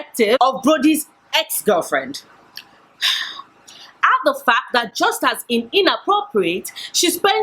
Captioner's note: sigh